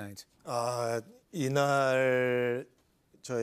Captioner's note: speaking Korean